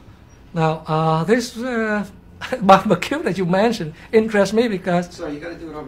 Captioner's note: cười khúc khích